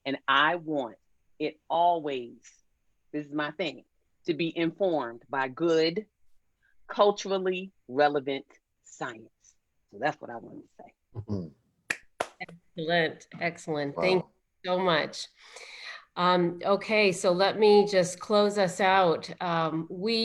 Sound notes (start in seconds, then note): 11.9 clapping